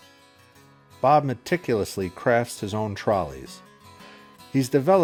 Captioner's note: voiceover